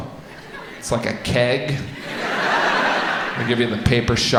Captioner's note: audience laughs